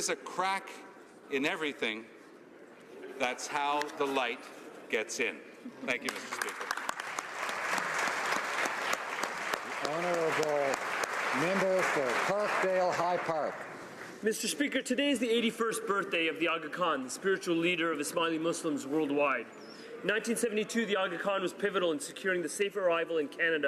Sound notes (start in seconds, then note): 10.6 applause